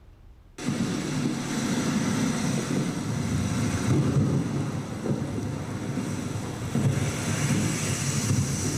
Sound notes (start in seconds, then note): 0.6 intense sea roars; 0.6 intense waves splashes